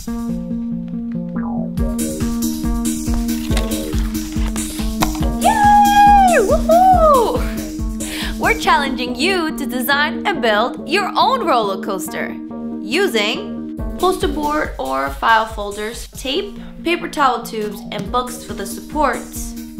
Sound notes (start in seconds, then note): 5.5 cheering